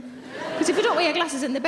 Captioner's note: audience laughing